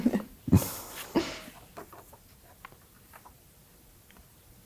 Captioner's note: paper rustling